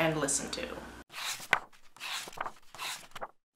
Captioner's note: pages turning